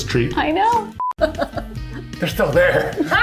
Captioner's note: beep